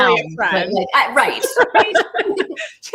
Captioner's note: laughs